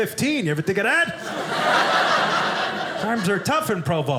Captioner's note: audience laughing